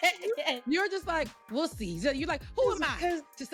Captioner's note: laughing